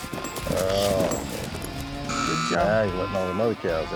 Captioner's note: buzzer